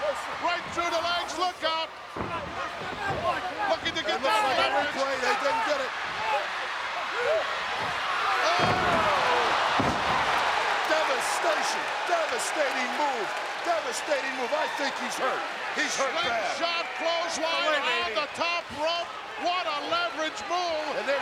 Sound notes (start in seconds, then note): 6.4 audience cheering; 9.5 audience cheering